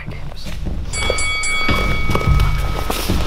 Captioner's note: bell ringing